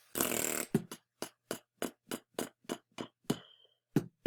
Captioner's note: beatboxing